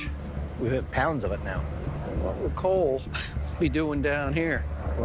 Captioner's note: laughs